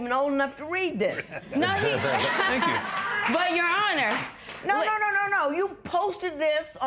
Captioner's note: laughter